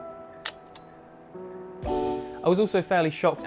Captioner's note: camera shutter